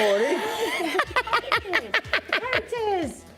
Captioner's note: laughing